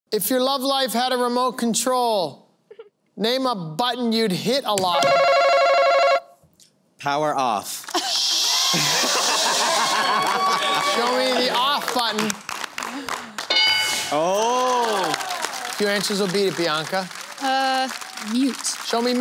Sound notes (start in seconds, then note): 5.0 buzzer; 10.8 cheering